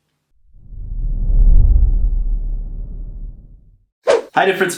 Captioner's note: low rumbling